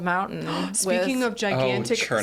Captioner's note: gasping